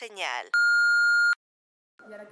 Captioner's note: beep